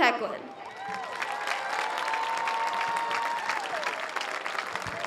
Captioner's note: audience cheers